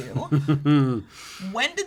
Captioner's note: laughs